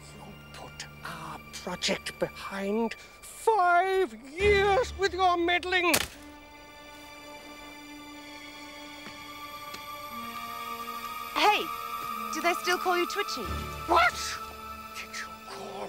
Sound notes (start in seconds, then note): 5.8 branch snapping; 7.1 tense music